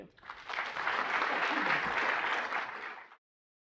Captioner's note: applause